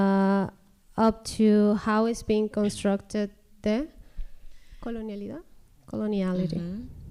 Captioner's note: speaking spanish